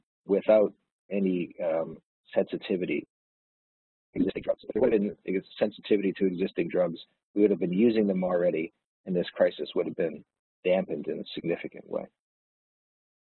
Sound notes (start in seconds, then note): 4.1 audio distorts